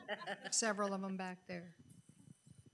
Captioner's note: people laughing